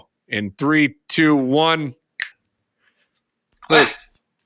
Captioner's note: snapping fingers